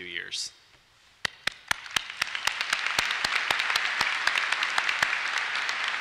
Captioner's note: applause